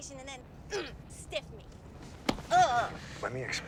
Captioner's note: grunting